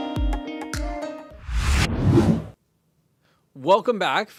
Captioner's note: air whooshing